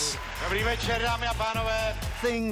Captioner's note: host speaking in a foreign language